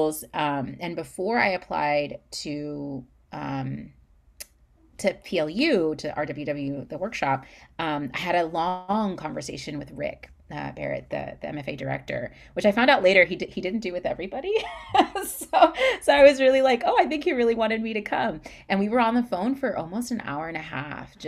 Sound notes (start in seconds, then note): 14.6 laughs